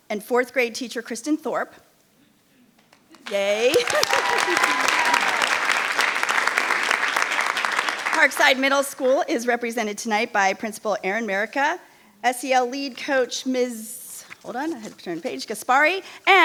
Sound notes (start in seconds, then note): 3.2 audience applauding; 3.4 chuckles